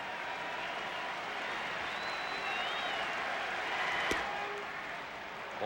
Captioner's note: applause